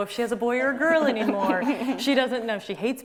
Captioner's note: laughs